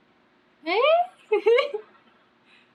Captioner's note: laughs